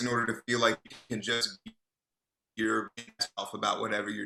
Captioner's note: voice scrambles; voice scrambles